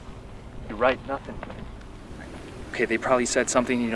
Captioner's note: none